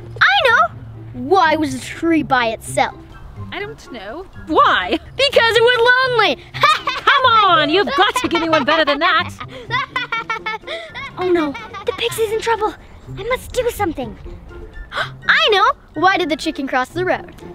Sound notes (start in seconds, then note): 6.5 laughs; 10.1 jester continues laughing